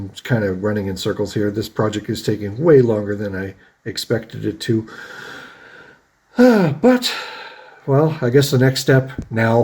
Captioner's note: sighs